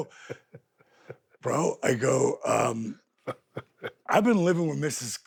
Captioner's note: Steve laughs; Steve laughs